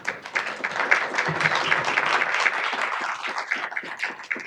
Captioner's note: audience clapping